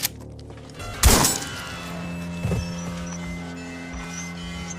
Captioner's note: gun loading; gunshot firing